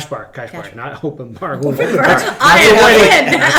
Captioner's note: all laugh